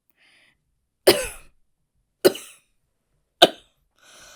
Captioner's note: Hana coughs